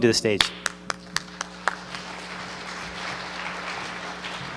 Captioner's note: applause